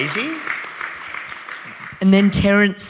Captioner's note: audience applauding